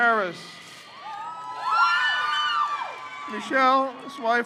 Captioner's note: crowd cheers